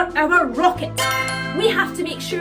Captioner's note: chime